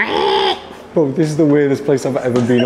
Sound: squealing; squawking in the distance

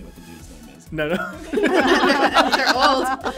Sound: laughs

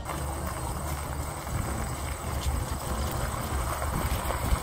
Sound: gravel crunching

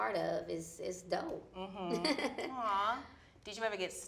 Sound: laughs

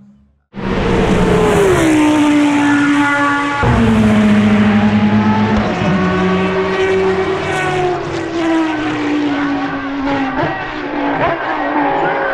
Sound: vroooooooooom

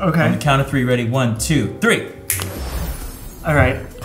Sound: snaps fingers

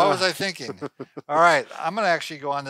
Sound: chuckles

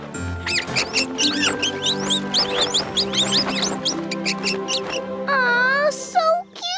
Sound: squeaking

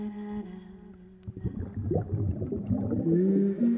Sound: humming

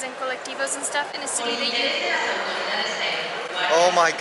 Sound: announcement on overhead speakers

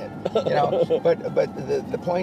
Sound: laughs

